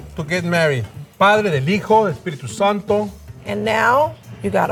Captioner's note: speaks in Spanish